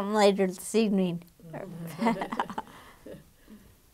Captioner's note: laughing